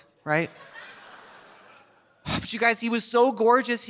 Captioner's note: audience laughing softly; sighs